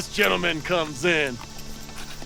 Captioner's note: laughs